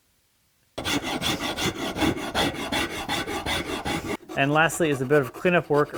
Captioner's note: aggressive filing